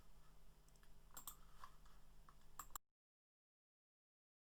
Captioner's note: mouse clicking